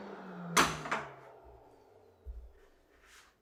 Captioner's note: wood thuds